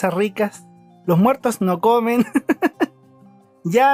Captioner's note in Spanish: risas